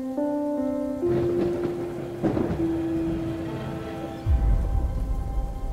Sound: crackling thunder

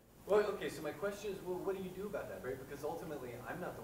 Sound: voiceover

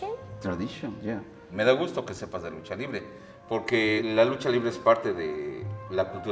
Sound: speaking foreign language

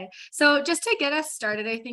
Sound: speaking faintly

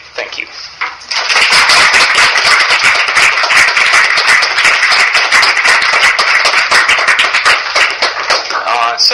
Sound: applause

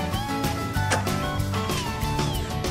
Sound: door clicks open

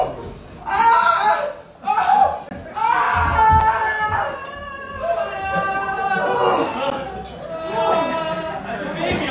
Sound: screaaams

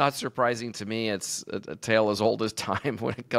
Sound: chuckles

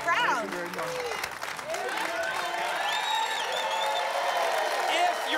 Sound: applause

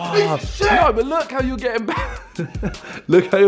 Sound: laughs

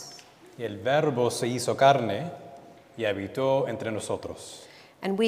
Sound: speaking in Spanish

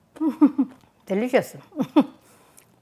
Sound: laughs

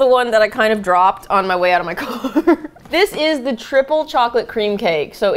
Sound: laughs

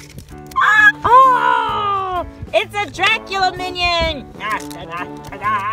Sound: voiceover

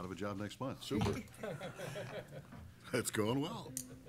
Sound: laughter

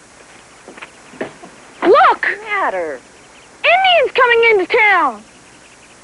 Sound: excited

